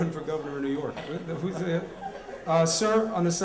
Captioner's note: laughter